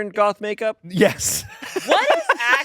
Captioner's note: laughs